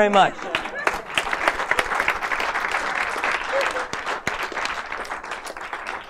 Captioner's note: audience applause and laughter